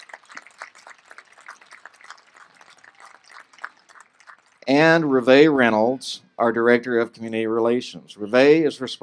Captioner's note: applause